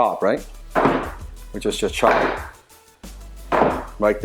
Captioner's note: Wing Chun dummy bangs